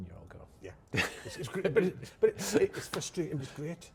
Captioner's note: chuckles